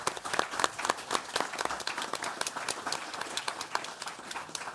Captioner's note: audience applauds